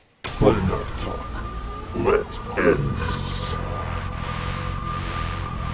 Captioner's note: growls